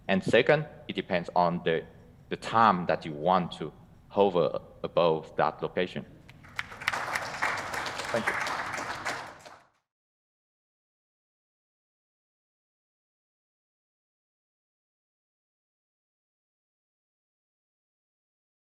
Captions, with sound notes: And second, it depends on the the time that you want to hover above that location. (Audience clapping) Thank you.